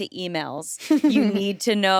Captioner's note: chuckles